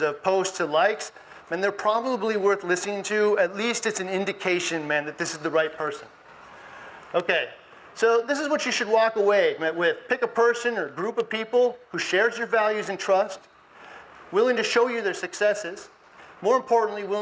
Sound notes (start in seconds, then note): none